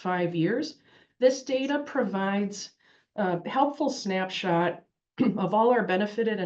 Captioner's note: cough